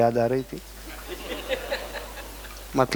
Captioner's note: laughing